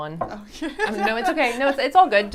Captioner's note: laughs